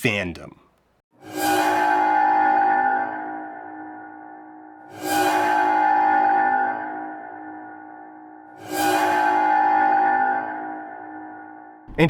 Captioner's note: screeching klaxon